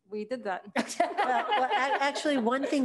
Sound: board Members laughing

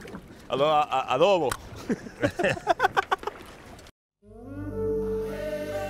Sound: laughs

